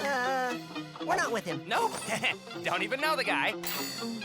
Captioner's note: laughs nervously